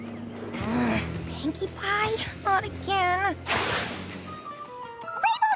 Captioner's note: groans